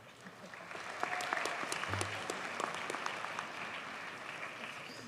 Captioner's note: audience cheers and applauds